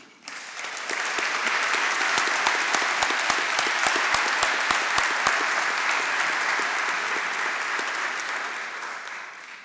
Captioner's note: applause